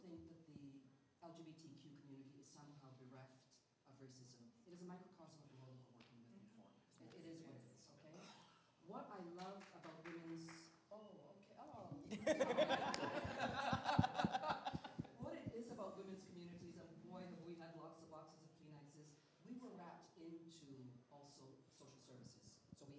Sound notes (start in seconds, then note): 12.0 laughter; 12.7 clapping